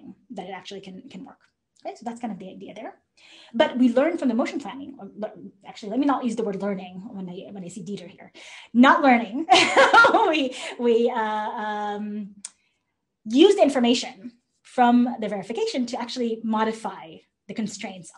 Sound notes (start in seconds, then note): 9.5 laughter